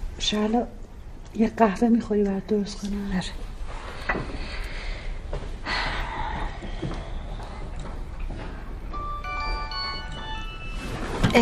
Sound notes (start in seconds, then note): 3.6 deep breathing; 8.9 mobile ringing